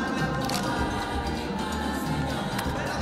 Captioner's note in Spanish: Clic de la cámara